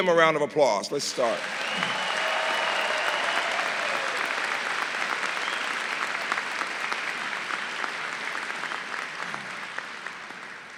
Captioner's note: applause